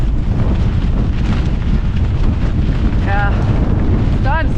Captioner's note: wind